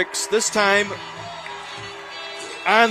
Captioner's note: applause